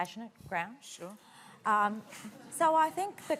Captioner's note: murmur of laughter